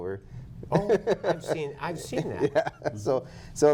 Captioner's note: laughter